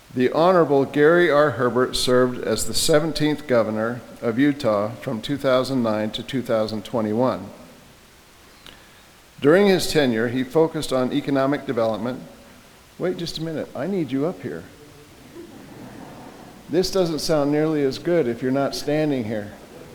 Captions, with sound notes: The Honorable Gary R. Herbert served as the 17th governor of Utah from 2009 to 2021. During his tenure, he focused on economic development, wait just a minute, I need you up here. (audience laughing) This doesn't sound nearly as good if you're not standing here.